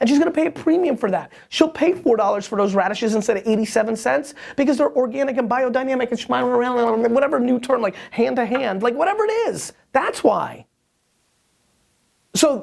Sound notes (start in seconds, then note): 6.2 speaking nonsense